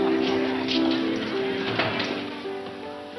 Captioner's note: none